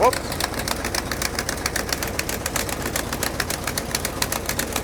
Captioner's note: engine rumbling